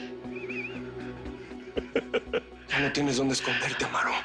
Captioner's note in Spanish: Risas